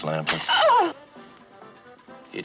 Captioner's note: whimpers